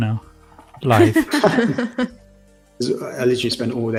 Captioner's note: laughter